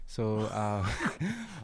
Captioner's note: laughs